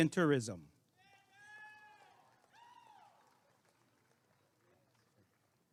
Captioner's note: applause and cheering